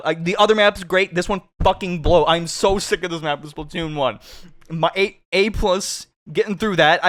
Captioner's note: sniff